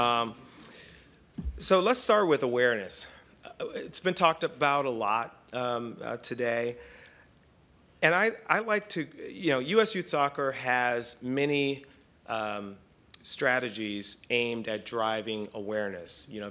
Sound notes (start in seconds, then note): none